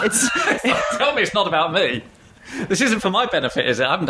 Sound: laughing

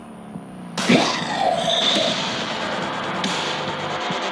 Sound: growling

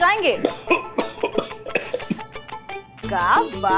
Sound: coughs

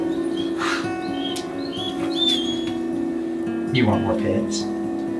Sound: dog whining

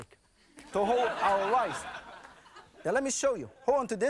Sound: audience laughing

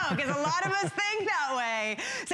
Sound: laughter

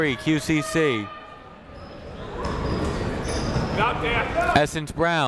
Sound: people shouting in the crowd

